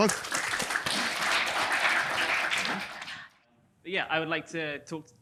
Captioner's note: attendees applauding